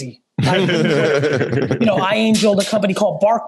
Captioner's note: laugh